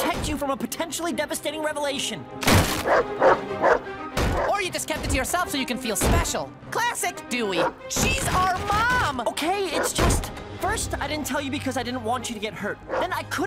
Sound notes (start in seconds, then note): 2.4 wood splinters; 2.8 barking